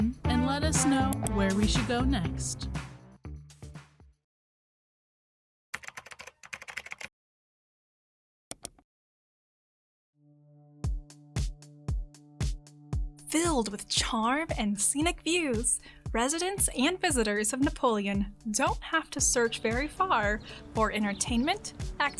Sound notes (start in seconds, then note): 5.8 typewriter clacking; 8.4 mouse clicking; 10.8 upbeat music